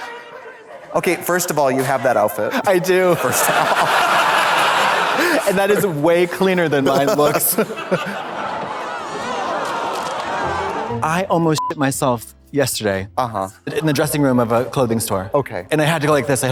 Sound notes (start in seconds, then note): 4.1 audience laughs; 8.0 audience laughs; 10.4 upbeat music; 11.3 beep